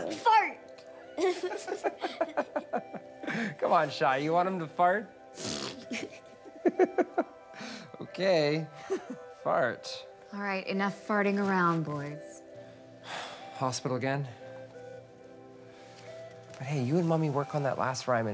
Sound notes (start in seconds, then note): 1.1 both Laugh; 5.4 fart Noise; 5.7 laugh; 13.0 sighs